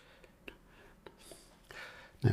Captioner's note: silence